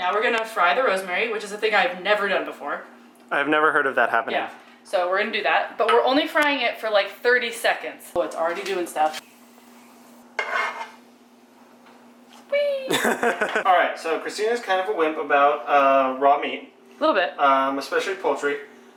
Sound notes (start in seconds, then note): 9.9 scraping sound; 12.8 laughs